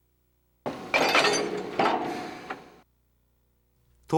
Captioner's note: connecting sound / Air coming out sound